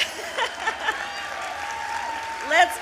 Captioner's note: applause; laughs